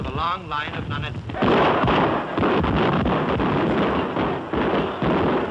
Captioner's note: gunfire